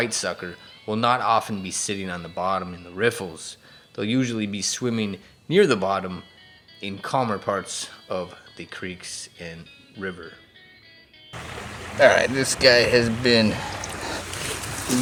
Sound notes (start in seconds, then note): 11.3 water flowing